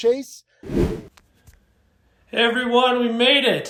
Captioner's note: video whooshing